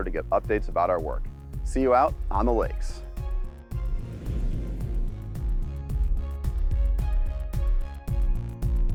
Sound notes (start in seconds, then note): 3.6 whooshing; 5.2 upbeat music